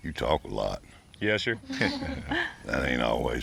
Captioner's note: laughter